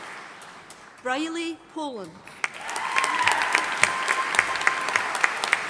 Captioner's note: audience applauding